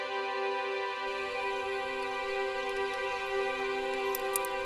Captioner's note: bicycle bells jangling